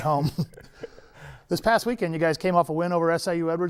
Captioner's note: chuckles